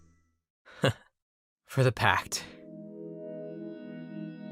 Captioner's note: laugh